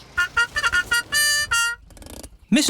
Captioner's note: horn tooting